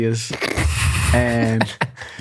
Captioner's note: laughs